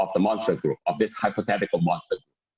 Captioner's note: murmur